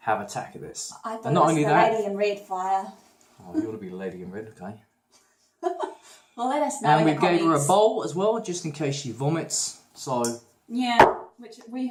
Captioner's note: laughing- Fire you and your comments